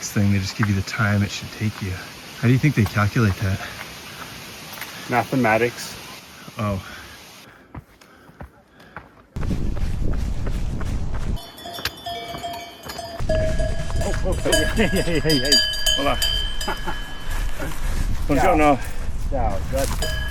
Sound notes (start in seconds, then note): 11.4 cow bell; 16.5 chuckles